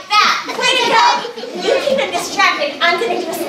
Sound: audience laughing

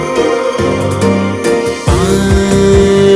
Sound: humming

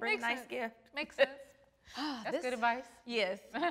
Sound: sighs

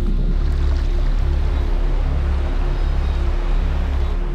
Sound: water lapping

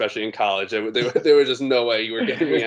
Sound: laughing

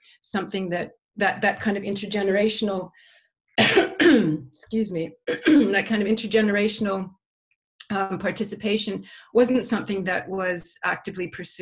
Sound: cough

